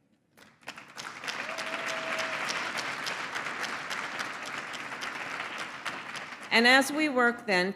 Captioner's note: applause